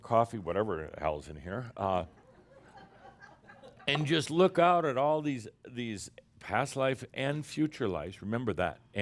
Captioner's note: a few chuckles